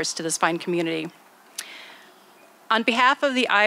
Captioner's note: none